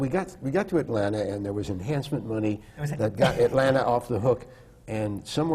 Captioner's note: laughs